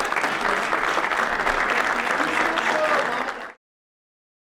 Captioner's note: applause